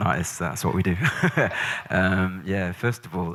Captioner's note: laughs